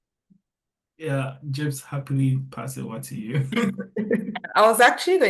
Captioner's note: laughs